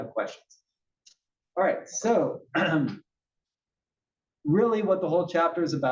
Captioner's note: cough